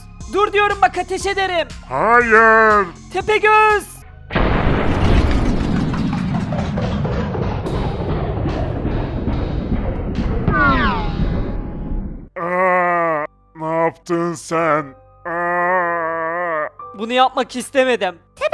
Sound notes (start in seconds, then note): 4.3 gunshot